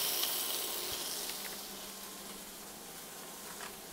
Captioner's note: fish sizzling